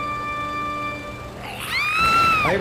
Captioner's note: woman screams